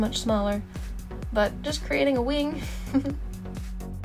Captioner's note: giggles